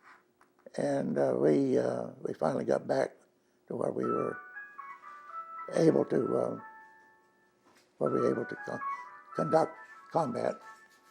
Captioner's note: telephone ringing